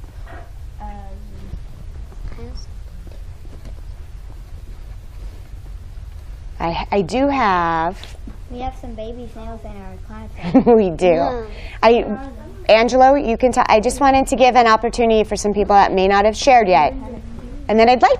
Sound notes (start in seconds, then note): 10.4 giggling